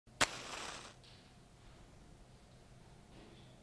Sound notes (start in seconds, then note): 0.2 fire whirring